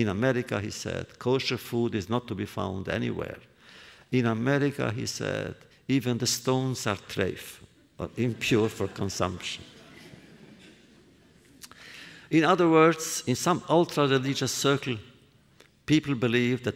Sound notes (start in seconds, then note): 8.2 laughter